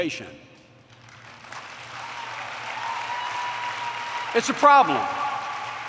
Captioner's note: applause